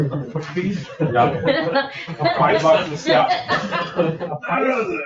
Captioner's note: members chattering